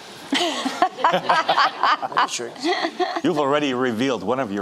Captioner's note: laughing